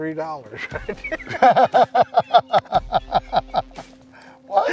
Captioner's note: laughter